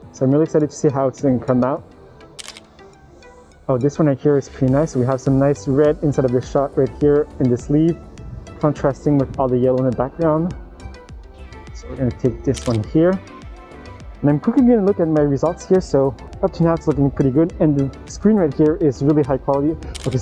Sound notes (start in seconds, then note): 2.4 camera clicking; 12.5 camera clicking